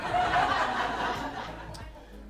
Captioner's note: audience laughs